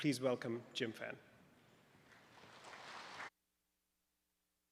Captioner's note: applause